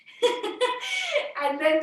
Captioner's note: laughing